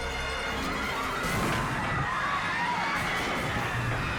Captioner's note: crowd screams